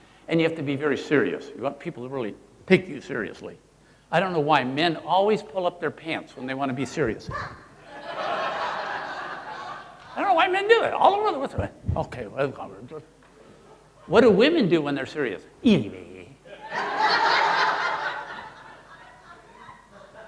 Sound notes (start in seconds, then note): 7.8 audience laughing; 12.4 mumbles; 15.6 mumbles; 16.5 audience laughing